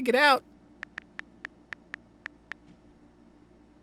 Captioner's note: phone unlocks